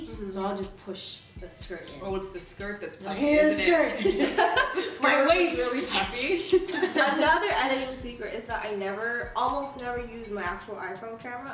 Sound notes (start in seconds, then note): 3.9 laughter